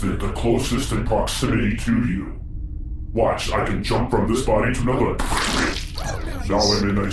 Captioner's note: tearing/squelching sound; quietly